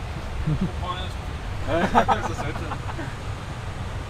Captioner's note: laughter